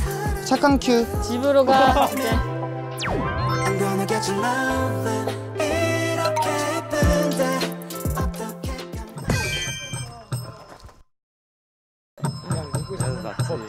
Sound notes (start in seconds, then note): 9.3 ring